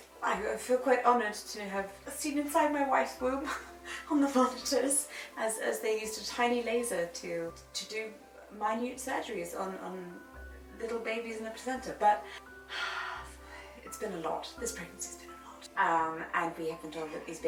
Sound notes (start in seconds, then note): 12.3 exhales